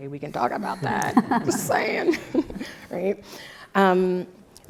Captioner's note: laugh